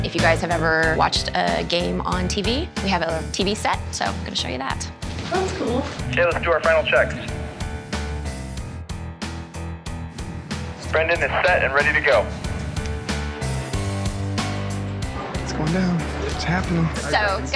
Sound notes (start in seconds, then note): 6.6 man on radio